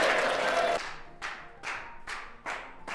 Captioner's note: clapping